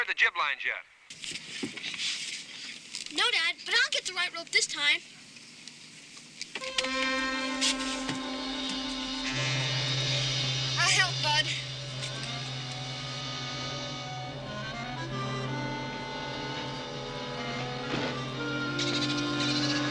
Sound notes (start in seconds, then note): 10.6 Flipper chattering